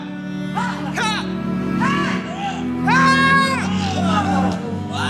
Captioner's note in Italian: le donne urlano